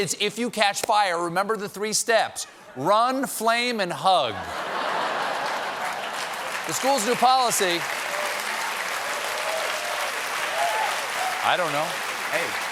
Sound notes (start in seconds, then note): 4.3 laughter; 4.9 applause